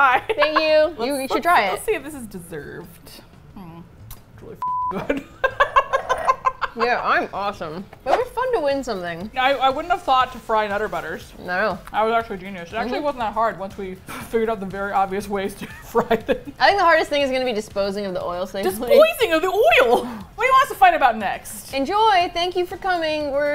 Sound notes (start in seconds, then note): 0.1 laughs; 4.6 beep; 5.0 laughs; 15.4 laughs; 18.8 playfully